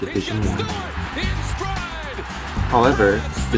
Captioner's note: excited commentator